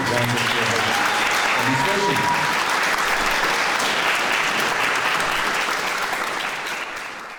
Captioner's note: clapping